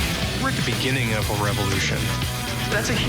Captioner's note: voiceover